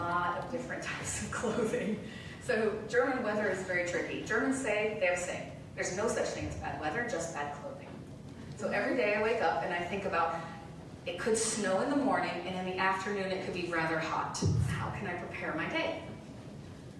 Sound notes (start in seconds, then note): none